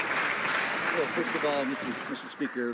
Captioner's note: some Applause